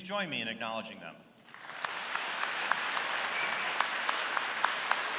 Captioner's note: applause